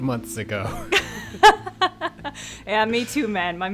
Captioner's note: laughs